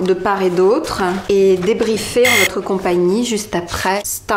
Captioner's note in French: beep